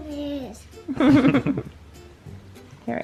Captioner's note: laughing